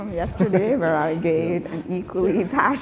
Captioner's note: laughing